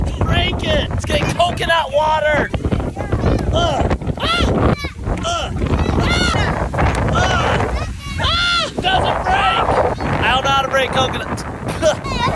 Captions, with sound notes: Let's break it. Let's get coconut water. (dad groans) Doesn't break. I don't know how to break coconuts.